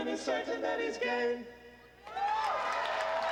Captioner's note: applause